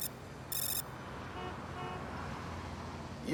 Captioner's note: car alarm